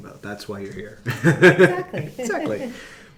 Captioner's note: laughing